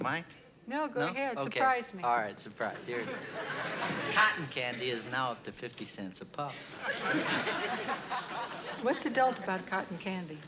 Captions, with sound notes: -No, go ahead. Surprise me. -No? Okay. All right. Surprise. Here it is. Cotton candy is now up to 50 cents a puff. [ Laughter ] What's adult about cotton candy?